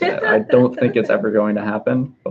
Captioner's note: laughing